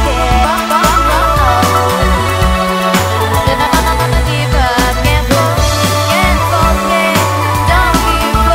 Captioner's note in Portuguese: vocalizações